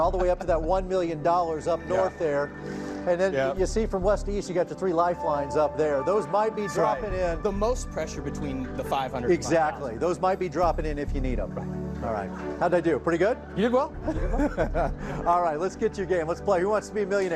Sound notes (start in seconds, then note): 14.0 laughing